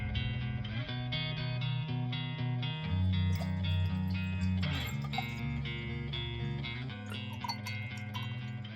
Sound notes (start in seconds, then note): 3.2 water splashes